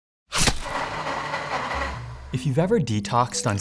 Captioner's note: slicing, whirring